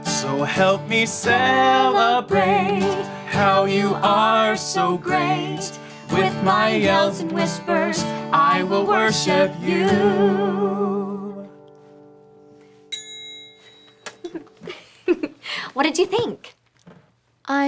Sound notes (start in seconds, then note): 12.9 dinging; 14.3 laughing